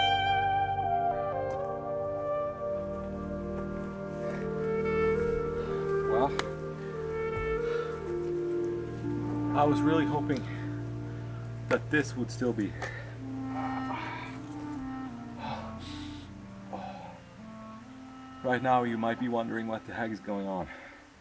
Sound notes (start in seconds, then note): 13.5 in pain